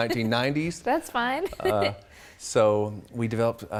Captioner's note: laughs